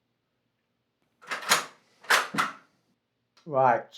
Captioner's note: rifle clicks